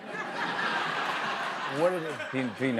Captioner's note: laughter